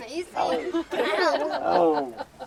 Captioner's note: laughter